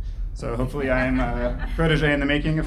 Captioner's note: laughing